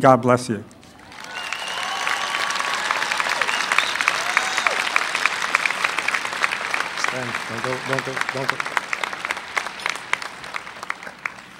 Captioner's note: applause